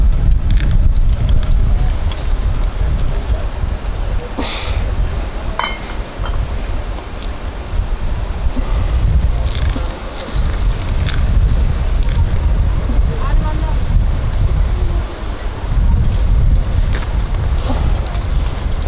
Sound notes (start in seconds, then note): 5.5 steel clanging